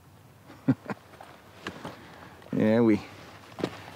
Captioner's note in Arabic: ضحكة مكتومة